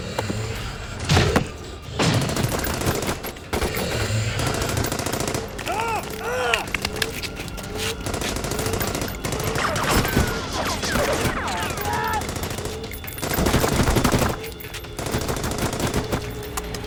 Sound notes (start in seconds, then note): 1.0 gunshots blasting; 5.6 soldier groans; 7.7 gunshots blasting